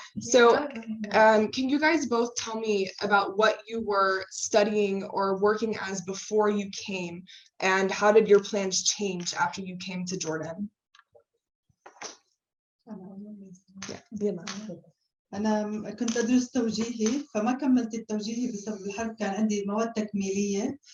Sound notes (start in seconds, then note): 12.7 non-english speech